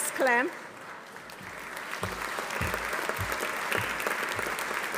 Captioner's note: audience applauding